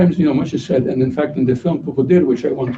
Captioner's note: non-english speech